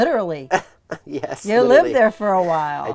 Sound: laughs

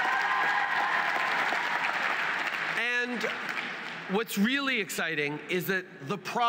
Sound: wild cheers & applause

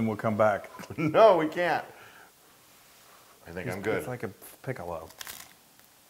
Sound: laugh

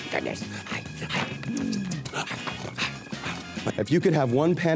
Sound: growling and kissing noises

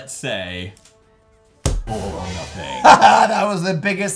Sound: scary noise + deep voice

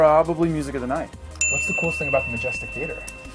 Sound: bell rings

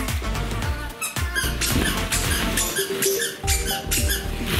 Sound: squeaking

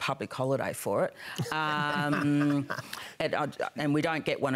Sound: laughter

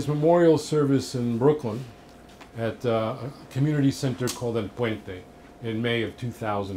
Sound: spanish speech

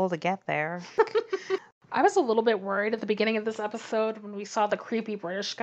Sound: laughs

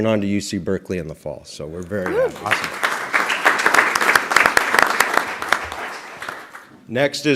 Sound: applause

